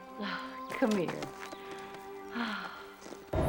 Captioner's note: sighs